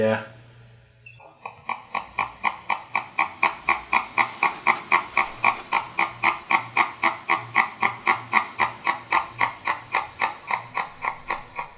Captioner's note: gecko clucking